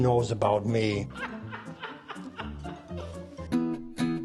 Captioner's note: camera person laughs